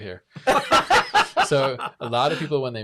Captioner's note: laughs